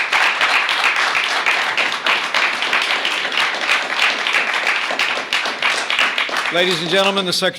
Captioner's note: applause